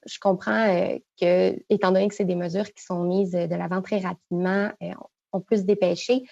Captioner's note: speaking French